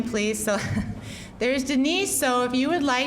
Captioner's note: chuckling